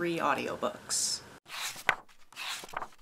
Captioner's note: pages turning